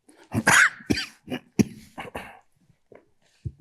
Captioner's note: coughs